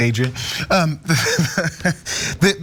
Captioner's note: laugh